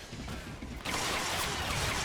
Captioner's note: gun firing